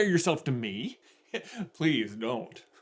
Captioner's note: chuckle